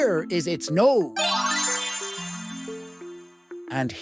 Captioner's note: magic twinkle